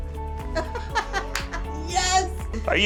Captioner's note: laughing